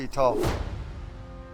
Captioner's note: thud